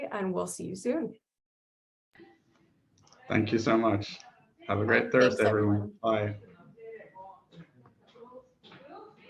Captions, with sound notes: and we'll see you soon. - Thank you so much. Have a great Thursday everyone, bye. (people chattering)